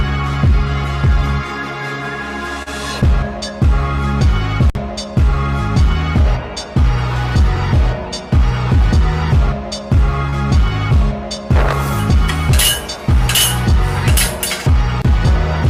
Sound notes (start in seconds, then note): 11.6 clanging